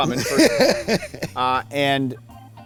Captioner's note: laughs